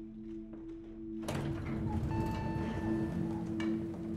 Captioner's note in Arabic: ضربات المصعد